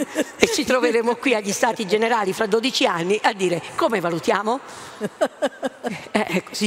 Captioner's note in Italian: Risate